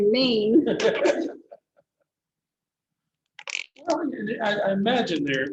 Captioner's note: laughter